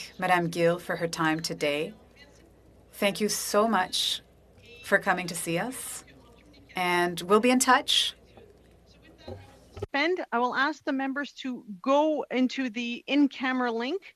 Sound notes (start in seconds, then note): 2.4 speaking in French